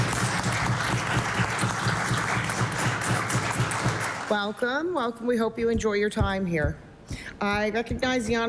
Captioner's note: applause